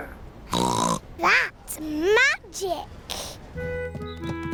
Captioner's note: snorts